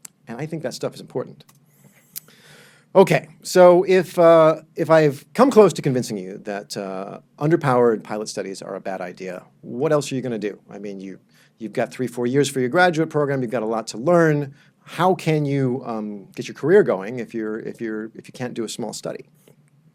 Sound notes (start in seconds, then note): none